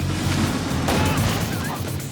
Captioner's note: chuckling